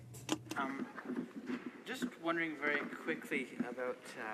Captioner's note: speaking in french